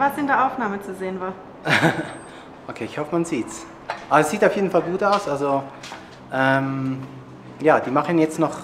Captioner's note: laughs